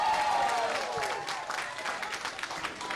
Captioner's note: applause